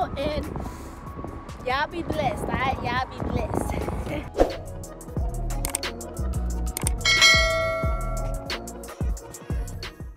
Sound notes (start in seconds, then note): 4.3 swoosh; 6.8 click; 7.0 bell ringing